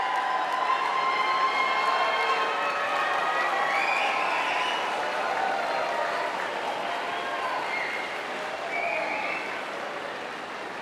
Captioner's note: applause